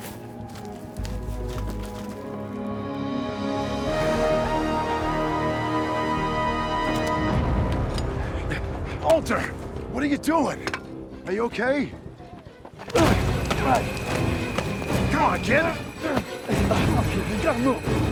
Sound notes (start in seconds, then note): 3.4 intense music; 8.6 Walter panting; 12.8 dramatic music